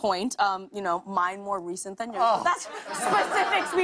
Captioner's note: laughter